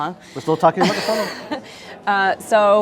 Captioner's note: chuckles